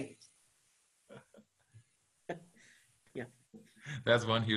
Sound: laughing

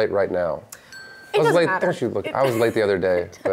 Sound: bell dings

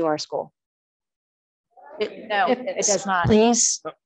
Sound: audience mumbling

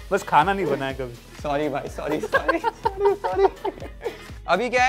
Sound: laughs

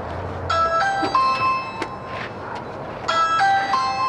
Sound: doorbell rings

